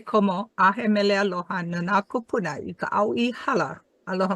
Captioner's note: speaks Hawaiian